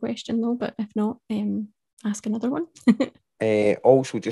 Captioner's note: chuckles